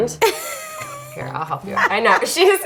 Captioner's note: laughing